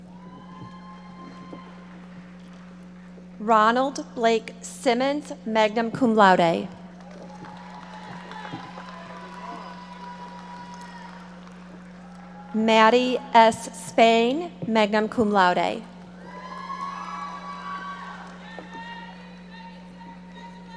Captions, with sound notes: (audience members cheering) Ronald Blake Simmons, magna cum laude. (audience applauding) Mattie S. Spain, magna cum laude. (audience cheering and applauding)